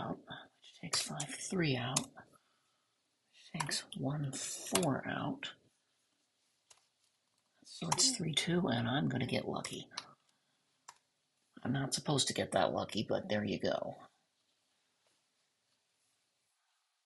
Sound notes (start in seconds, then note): 14.1 silence